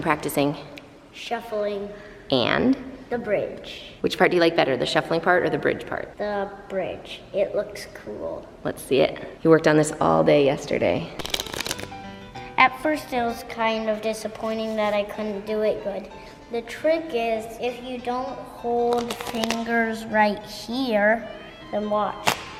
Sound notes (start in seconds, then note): 11.2 cards shuffling; 22.2 cards clattering